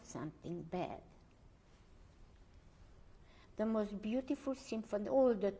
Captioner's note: pauses for 3 seconds